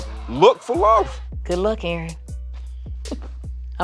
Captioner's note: chuckles